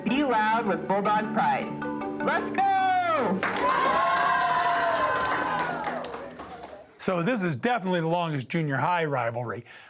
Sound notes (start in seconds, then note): 3.4 clapping and cheering